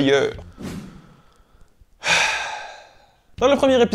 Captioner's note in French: soupir